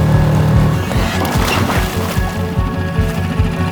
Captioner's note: water splashing; ominous instrumental music continues